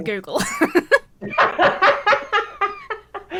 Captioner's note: both laugh